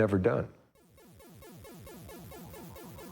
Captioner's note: video game beeping